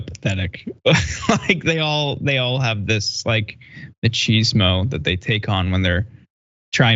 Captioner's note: laugh